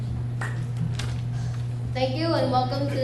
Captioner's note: audience applauds; paper rustling; exhales